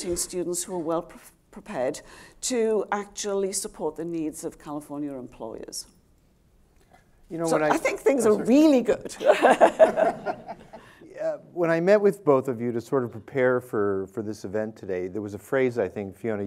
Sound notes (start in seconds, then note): 9.2 audience and panel laughing